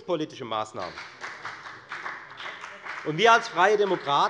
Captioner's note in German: Beifall bei der FDP